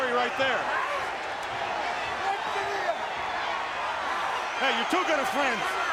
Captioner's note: crowd clamoring; Ric faintly speaking